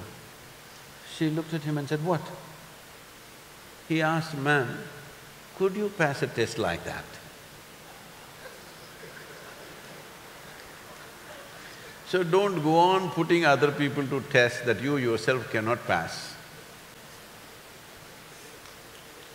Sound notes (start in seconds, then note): 7.8 few laugh; 17.4 laughs; 18.2 applause